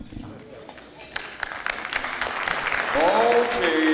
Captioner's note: clapping